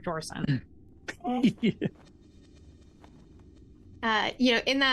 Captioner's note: Omega laughs